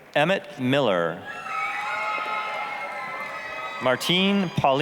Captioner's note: applause, cheering